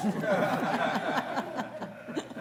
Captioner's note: laughter